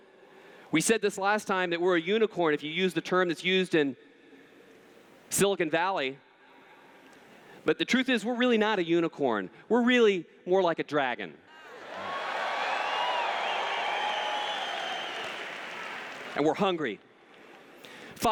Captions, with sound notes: We said this last time, that we're a unicorn, if you use the term that's used in Silicon Valley. But the truth is, we're really not a unicorn, we're really more like a dragon. [Cheers] And we're hungry.